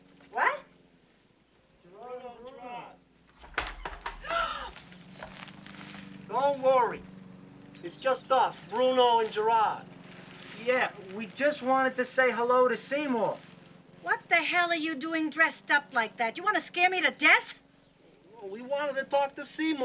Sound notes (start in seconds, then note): 4.1 Rita gasps